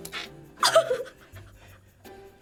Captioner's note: laughs in disbelief